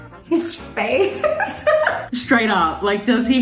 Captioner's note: laughs